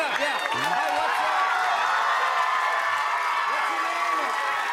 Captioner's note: cheers and applause